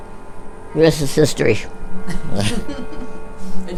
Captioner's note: laughs